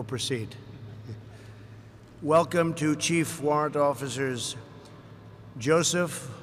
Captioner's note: laughter